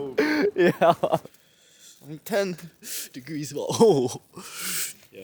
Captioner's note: laughing